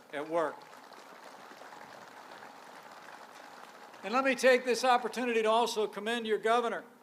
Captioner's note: applause